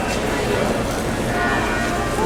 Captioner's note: bells ringing